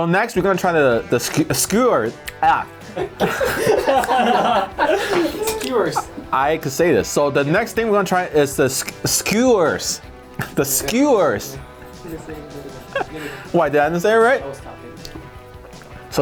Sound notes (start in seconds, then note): 2.8 all laugh